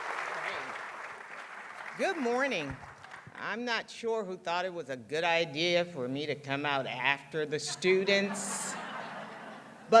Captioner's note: applause